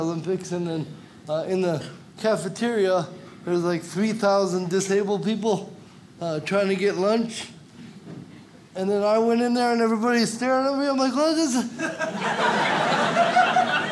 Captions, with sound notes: and in the cafeteria, there was like 3,000 disabled people, trying to get lunch, and then I went in there and everybody's staring at me, I'm like, (stammers) (audience laughs)